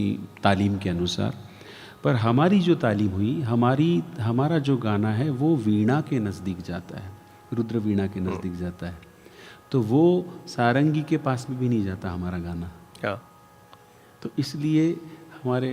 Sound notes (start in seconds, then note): 14.9 drone